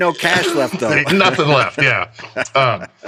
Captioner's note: both laugh